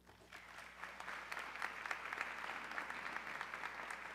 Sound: audience clapping

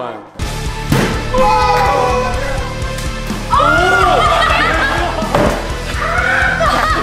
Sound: dramatic music; children cheering

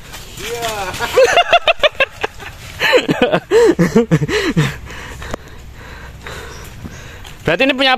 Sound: laughs

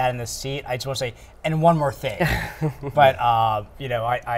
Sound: chuckling

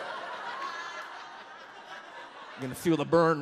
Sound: audience laughs

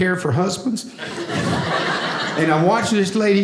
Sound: audience laughing

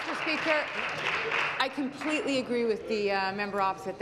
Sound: applause

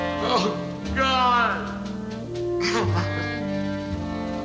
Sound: sobs

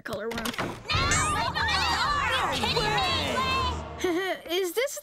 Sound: yelling

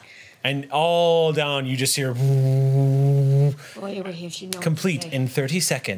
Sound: air noises

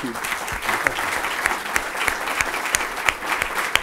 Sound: applause

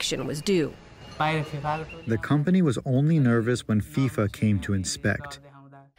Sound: through translator

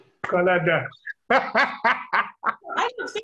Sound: laughing

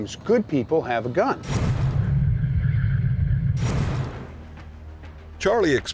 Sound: serious sound effect

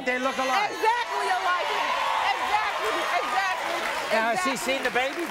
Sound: audience cheers

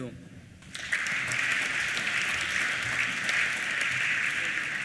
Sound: applause

